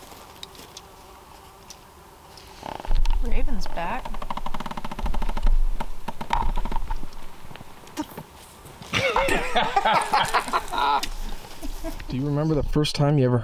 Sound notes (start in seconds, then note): 0.1 insects buzzing; 8.9 all laughing